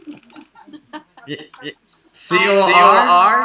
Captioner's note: laugh